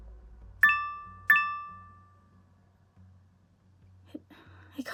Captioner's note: phone beeping